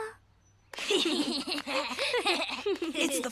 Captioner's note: applause